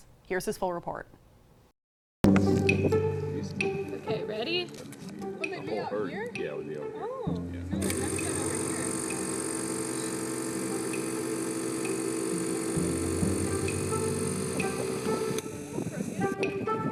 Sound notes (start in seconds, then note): 2.4 upbeat music; 7.8 machine roaring